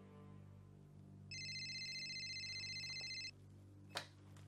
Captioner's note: phone rings